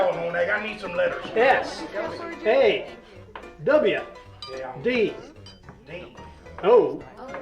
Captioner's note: people chattering